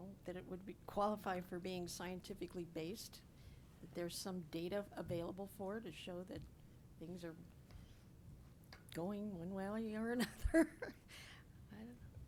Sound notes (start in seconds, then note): 10.2 chuckles